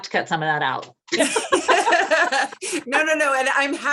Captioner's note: all laughs